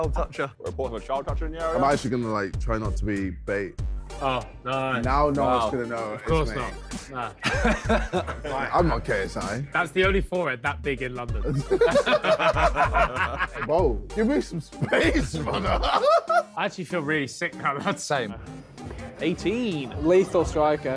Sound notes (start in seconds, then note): 11.4 all laughing; 14.8 KSI lauging